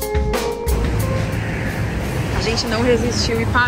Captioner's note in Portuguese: ondas do mar